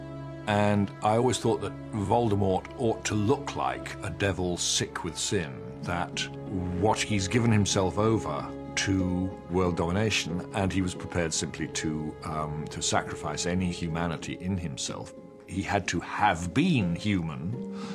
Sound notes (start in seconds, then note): none